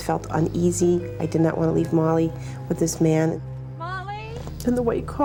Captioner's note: sobs